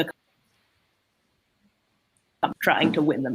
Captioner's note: Em's mic cuts out